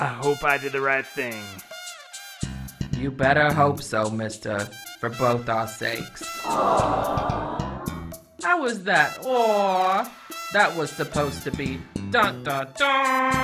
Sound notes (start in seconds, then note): 6.4 studio audience awwww